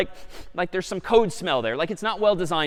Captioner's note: sniffs